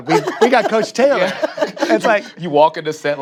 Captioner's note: laughs